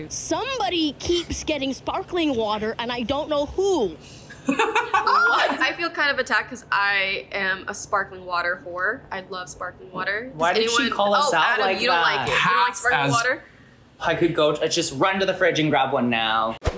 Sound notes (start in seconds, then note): 4.4 laughs